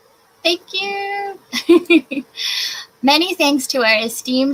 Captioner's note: laughs